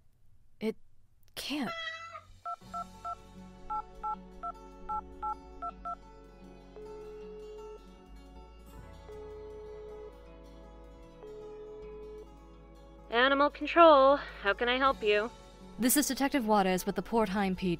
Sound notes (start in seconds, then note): 2.4 ring tone; 3.3 phone dialling